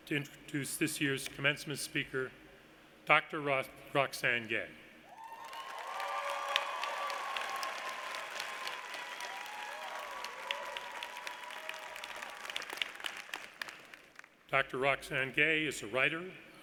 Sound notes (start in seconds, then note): 5.1 audience cheers; 5.2 audience claps